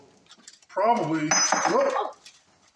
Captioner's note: filter extension clatters